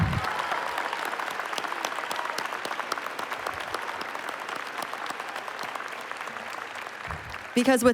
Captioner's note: applause